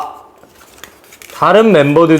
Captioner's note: rustling